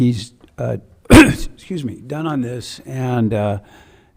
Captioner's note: clears throat